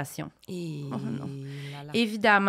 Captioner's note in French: exclamations